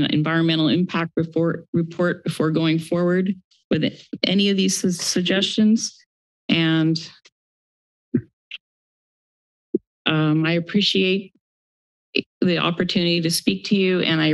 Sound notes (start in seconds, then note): 8.3 mic thumps